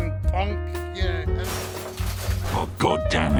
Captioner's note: crashes